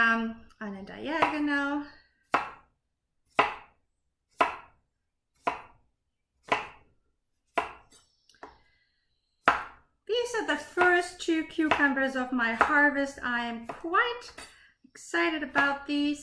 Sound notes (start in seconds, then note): 1.7 knife chopping